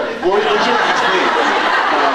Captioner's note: laughs